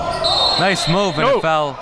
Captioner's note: whistle blowing